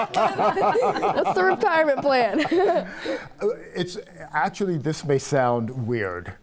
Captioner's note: laughter